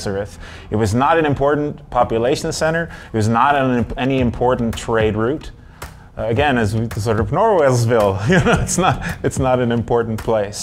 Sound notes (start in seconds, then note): 8.1 chuckles